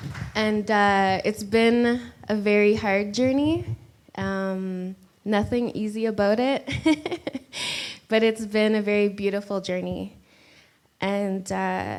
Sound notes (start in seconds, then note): 6.7 laughs